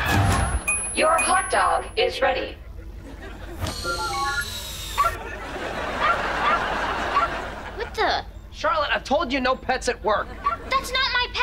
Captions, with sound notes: Your hotdog is ready. [beeping] [barking] What the... Charlotte, I've told you, no pets at work. That's not my pet.